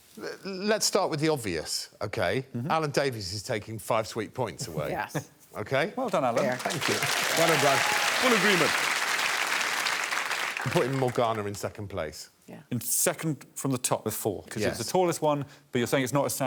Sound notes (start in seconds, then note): 8.9 applause